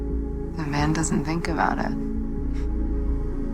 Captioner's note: chuckles